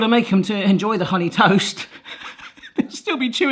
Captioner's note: laughs